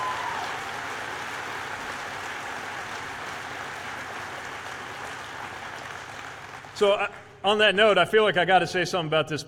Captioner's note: cheers/applause